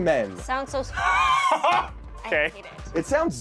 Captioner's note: laughs